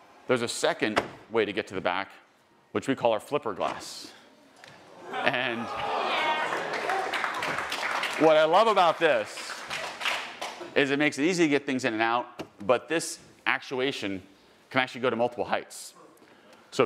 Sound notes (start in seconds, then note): 4.8 attendees gasping; 7.1 attendees applauding